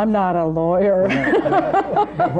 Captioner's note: laughs